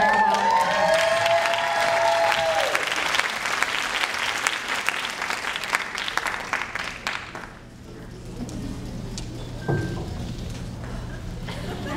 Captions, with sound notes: for the farewell address. (audience cheering and clapping)